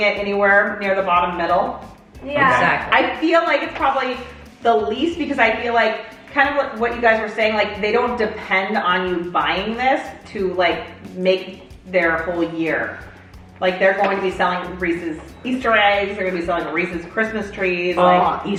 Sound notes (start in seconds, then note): none